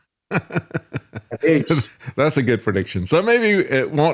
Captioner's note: laughing